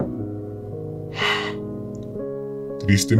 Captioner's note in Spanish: suspiro